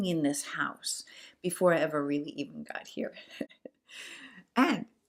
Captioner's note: laughs